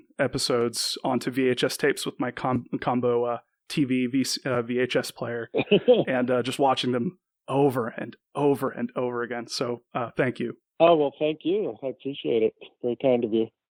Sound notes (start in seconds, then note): 5.5 laughs